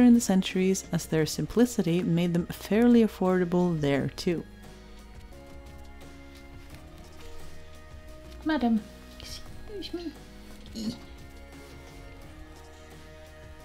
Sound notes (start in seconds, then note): 10.6 struggles